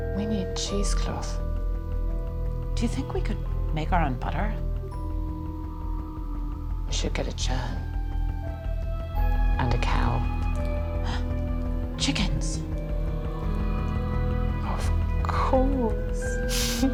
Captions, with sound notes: We need cheesecloth. Do you think we could make our own butter? We should get a churn. And a cow. [gasps] Chickens! Of course.